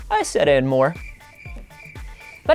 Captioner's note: crickets